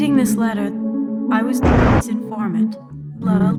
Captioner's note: convenient thunder